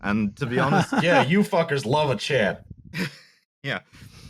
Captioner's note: laughs